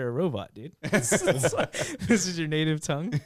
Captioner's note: laughing